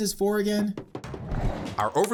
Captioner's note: wall running sounds